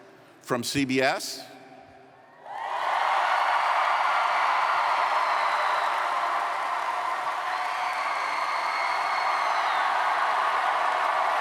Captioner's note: cheering